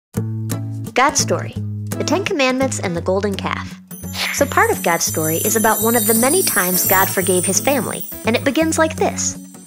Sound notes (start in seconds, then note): 3.9 wind chimes; 8.8 acoustic guitar